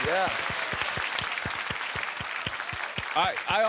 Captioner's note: applause